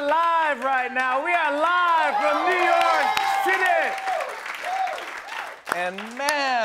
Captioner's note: cheers and applause